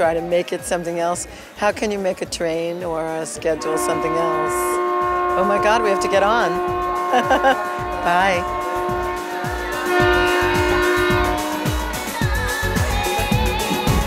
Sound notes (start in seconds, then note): 4.8 horn sounds; 9.9 uplifting acoustic guitar-led, train music